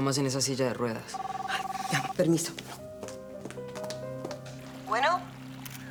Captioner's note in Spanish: Suena el celular